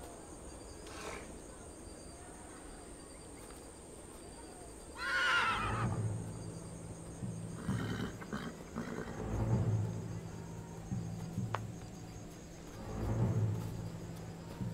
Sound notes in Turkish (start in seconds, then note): 5.0 At kişneme sesi; 5.2 Müzik - Gerilim